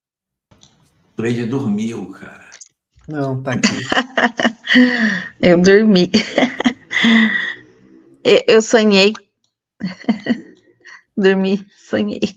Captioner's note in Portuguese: risadas